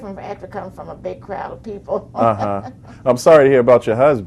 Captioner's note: laughs